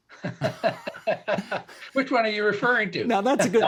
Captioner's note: both laughing